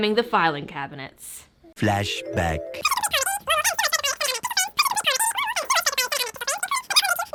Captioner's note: fast forward sounds